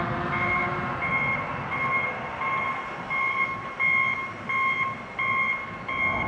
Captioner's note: construction beeps